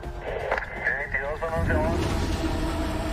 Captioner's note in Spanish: Voz en el radio